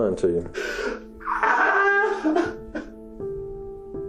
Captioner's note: sobbing loudly